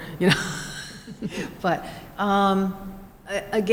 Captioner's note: laughter